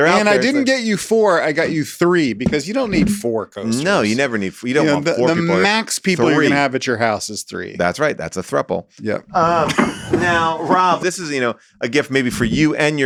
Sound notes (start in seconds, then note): 9.3 laughs